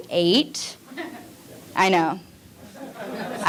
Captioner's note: audience laughing